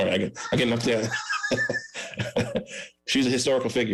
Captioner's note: laughs